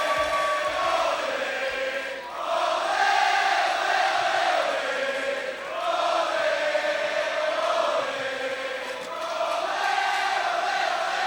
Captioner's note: fans chanting